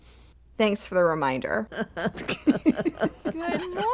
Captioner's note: laughter